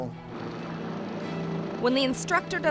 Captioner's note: helicopter revving; propeller rattling